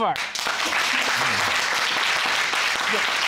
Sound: audience applauding

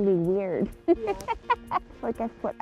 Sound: chuckling

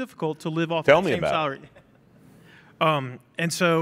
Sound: laughing

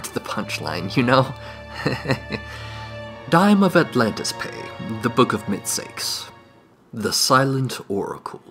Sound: nervous Laughter

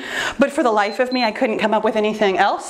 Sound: timer beeps

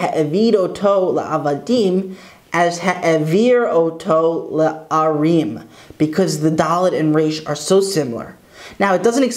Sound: Hebrew

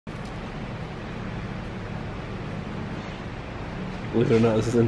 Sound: machines running

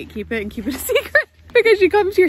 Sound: laughs

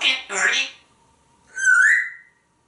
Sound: whistling

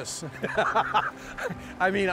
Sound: laughter

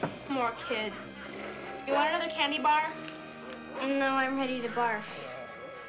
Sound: chuckles

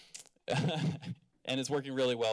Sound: laughter

